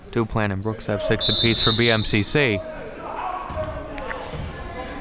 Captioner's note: whistle blows